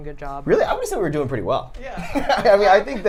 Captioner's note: laughs